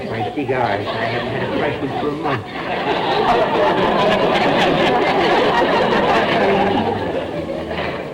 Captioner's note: audience laughter